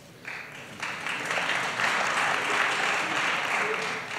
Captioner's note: applause